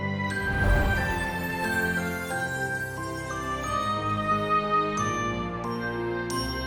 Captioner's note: gentle music continues; air whooshing